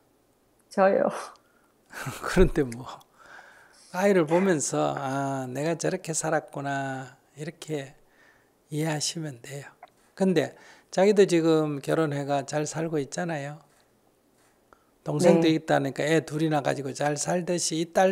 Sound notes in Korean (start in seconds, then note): 0.3 질문자 웃음; 4.3 스님 웃음